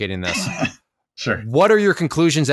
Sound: laughs

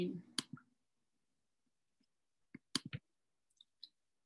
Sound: mouse clicking

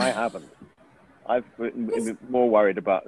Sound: Nicole laughs

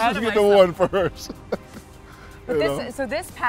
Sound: laughs

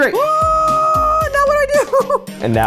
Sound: screaming

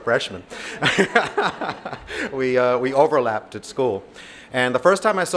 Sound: laughs

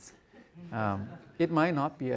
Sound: audience chuckles

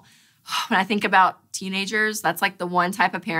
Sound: sighs

